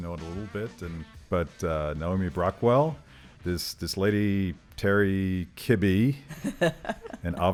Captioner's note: laughs